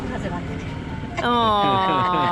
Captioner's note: laughing